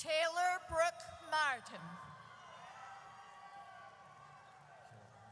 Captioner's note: audience cheers